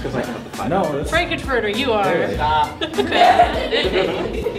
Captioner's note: laughter